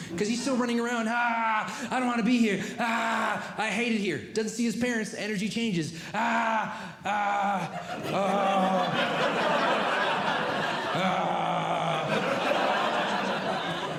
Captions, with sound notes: Because he's still running around. [Groaning] I don't want to be here. [Groaning] I hate it here. Doesn't see his parents. Energy changes. [Groaning] [Audience Laughing] [Groaning] [Audience Laughing]